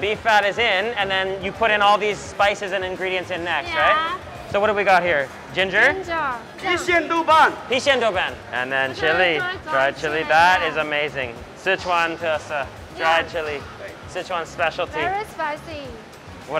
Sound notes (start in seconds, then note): 6.6 both speaks in Mandarin